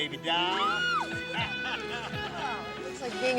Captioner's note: Jill squeals; Jeff laughs